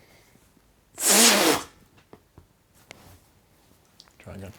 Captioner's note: blows out